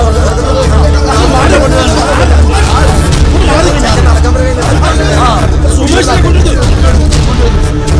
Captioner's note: babble of voices